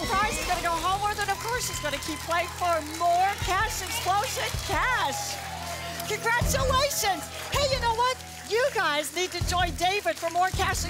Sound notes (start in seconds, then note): 5.8 audience applause